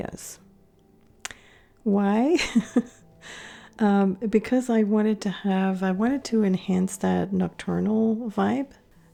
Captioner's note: laughing